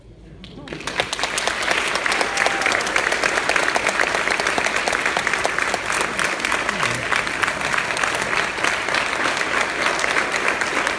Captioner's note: applause